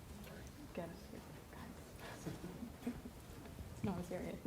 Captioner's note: chattering